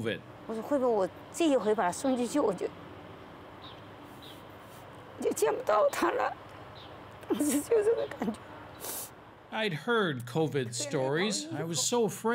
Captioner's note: speaking foreign language